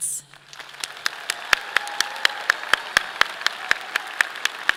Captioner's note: audience applauding